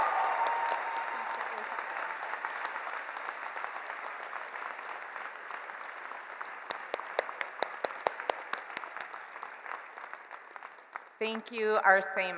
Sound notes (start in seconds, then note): 1.7 cheers and Applause